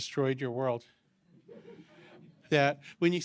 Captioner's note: laughter